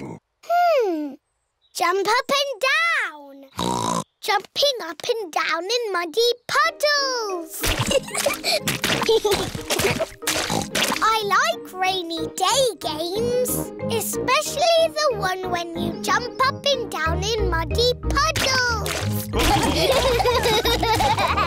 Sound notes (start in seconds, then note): 3.5 oinks; 7.8 both giggling; 10.3 oinks; 19.4 laughter